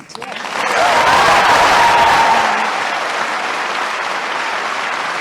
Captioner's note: applause